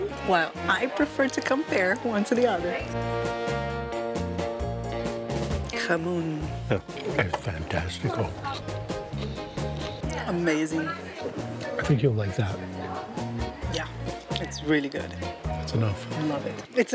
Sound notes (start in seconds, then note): 7.9 in Portuguese